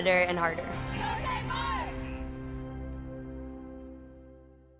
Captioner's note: team cheers